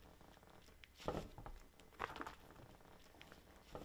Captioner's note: sounds of squishing clay